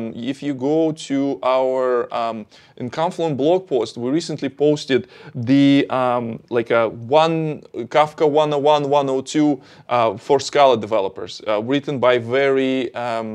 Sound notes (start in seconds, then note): none